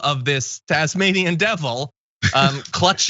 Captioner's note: laugh